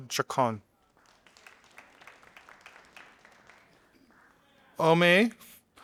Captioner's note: audience applauding